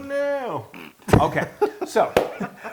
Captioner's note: laugh